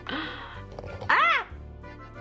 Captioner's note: noise of startlement